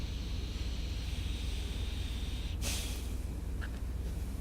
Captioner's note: sighs